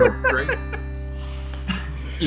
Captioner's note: men laughs